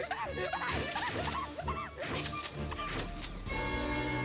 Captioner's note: laughing maniacally